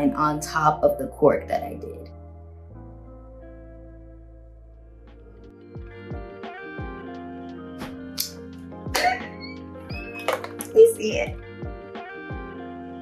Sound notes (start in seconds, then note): 5.1 mellow lo-fi hip hop music; 9.0 squeals